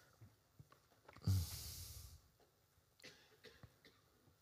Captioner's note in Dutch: stilte